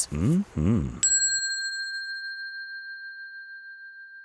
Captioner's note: bell dings